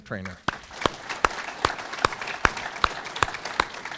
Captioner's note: audience clapping